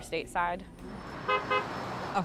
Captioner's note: car honks